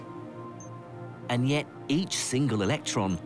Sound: voiceover

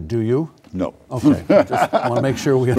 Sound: laughing

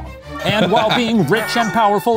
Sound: laughing

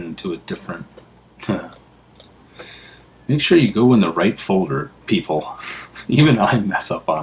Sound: laugh

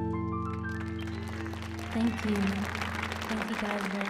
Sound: audience clapping

